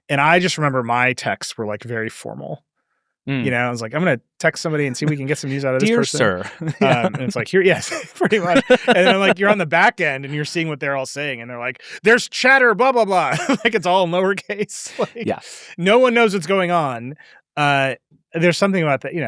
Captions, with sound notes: And I just remember my texts were, like, very formal. You know, I was like, "I'm gonna text somebody and see if we can get some news outta this person." - Dear sir, (chuckles) yeah. - And it's like, yes, pretty much. (laughs) And I'm like, "You're on the backend and you're seeing what they're all saying." And they're like, "There's chatter," blah, blah, blah. Like, it's all in lowercase. - Yeah. - No one knows what's going on. There's something about that.